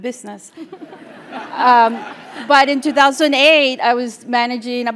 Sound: laugh

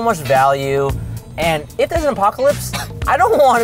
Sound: laughs

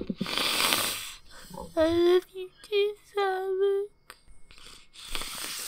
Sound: sniff; sniffs

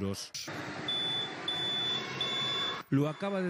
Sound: Nagi beeps

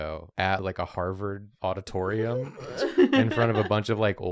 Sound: laughs

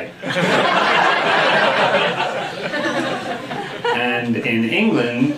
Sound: audience laughing

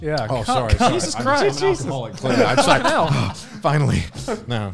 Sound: cheering

